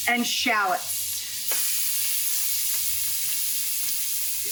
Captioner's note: pan sizzling